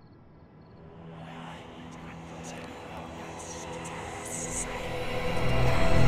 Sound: ghostly whispers; dramatic music

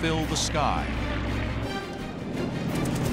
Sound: rapid gunfire

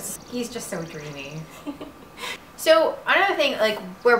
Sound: giggles

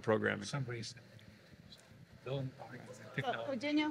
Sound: speaking faintly

